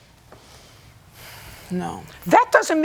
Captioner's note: sighs